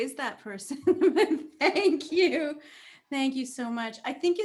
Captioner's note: laughs